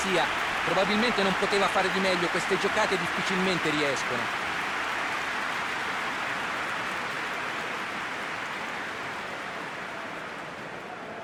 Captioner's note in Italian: Applauso